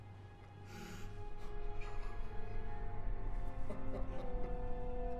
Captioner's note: sobbing